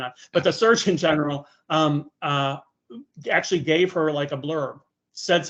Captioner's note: chuckling